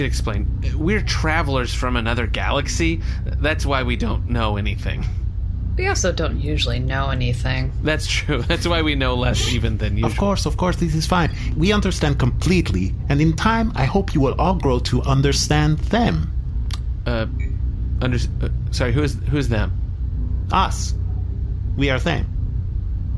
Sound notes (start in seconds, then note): 9.1 laughing